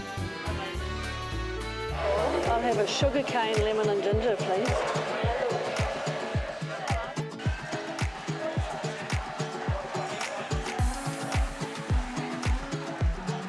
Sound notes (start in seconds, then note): 9.2 cracking noise